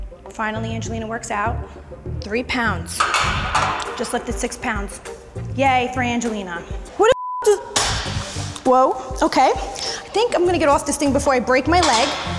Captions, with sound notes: Finally, Angelina works out. Three pounds, I just lifted six pounds. Yay, for Angelina. Who the (computer bleeps) is-- (weights clanging) Whoa, okay. I think I'm gonna get off this thing before I break my leg.